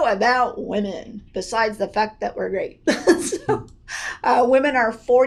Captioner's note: laughs